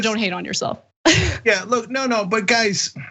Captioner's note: laugh